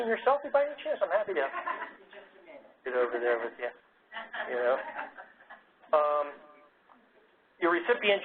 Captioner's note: laugh